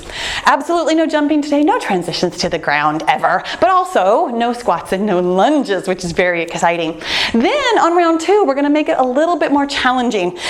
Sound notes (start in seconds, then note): none